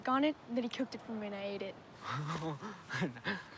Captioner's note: laughing